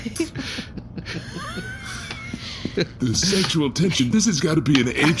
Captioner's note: stifled outburst of laughter